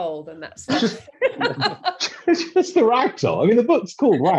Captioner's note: all laughing